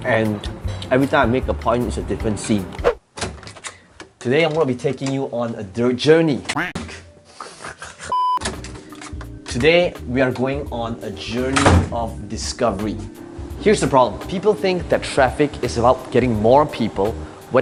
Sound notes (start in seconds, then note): 6.5 duck quack; 7.4 laughs; 8.1 blooper beep